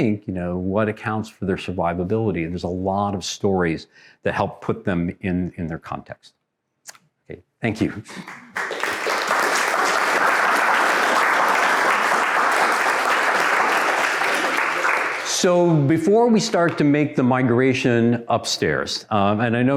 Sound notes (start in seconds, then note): 8.1 audience applauds